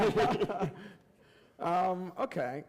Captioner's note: laughter